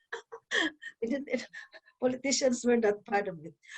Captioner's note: laughs